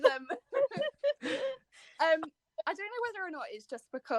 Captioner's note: laughter